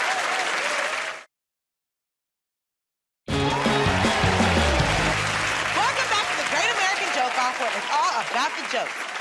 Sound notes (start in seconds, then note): 3.3 cheers and applause